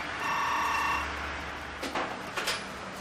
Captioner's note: telephone ringing